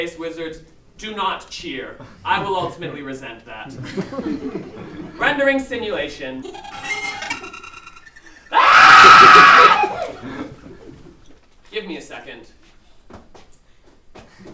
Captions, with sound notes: wizards, do not cheer. I will ultimately resent that. Rendering simulation. [scream] Give me a second.